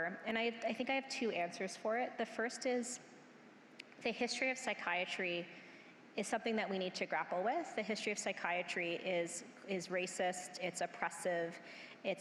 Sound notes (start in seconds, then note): none